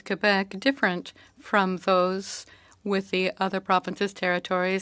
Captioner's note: speaking French